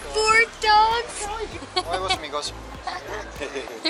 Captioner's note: laughter